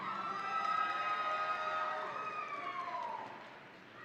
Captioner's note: audience cheering